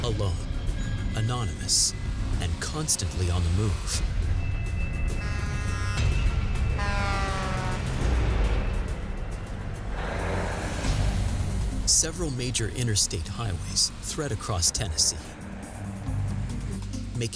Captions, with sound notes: alone, anonymous, and constantly on the move. [truck horn honking] Several major interstate highways thread across Tennessee,